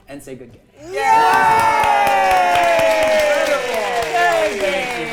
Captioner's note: players cheering